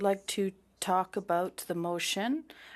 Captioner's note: speaking French